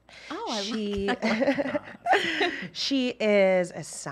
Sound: laughter

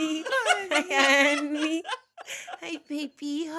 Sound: laughing

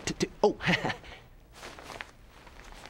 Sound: chuckles

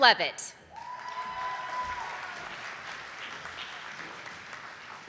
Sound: audience applauding

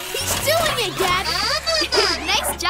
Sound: giggling

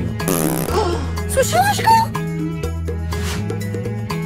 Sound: fart

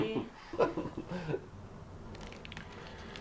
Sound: laughs

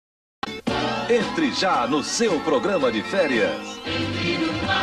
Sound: male announcer speaking Portuguese

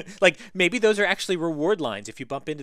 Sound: laugh

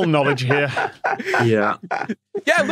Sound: laughs

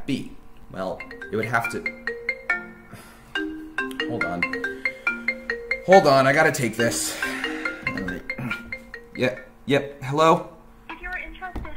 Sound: phone rings

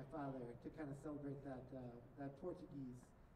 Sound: none

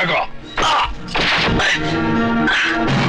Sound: groaning

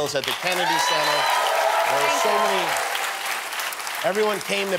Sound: applause and cheering

